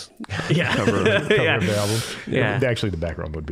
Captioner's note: all laughing